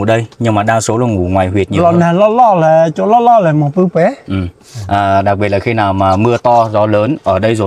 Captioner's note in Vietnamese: hắng giọng